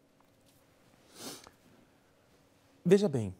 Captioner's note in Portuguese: silêncio